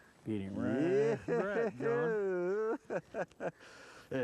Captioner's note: laughter and joy